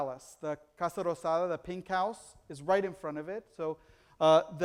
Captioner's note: foreign language